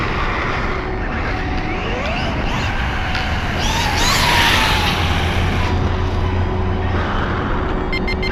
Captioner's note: electric motor sounds; electric motor screaming